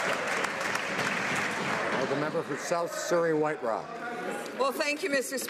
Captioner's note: some Applause